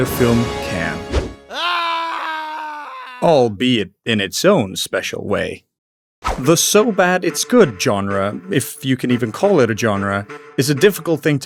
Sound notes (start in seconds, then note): 1.4 screams